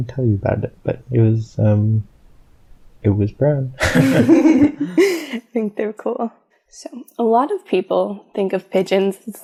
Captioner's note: both laugh